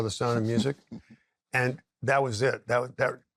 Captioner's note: chuckles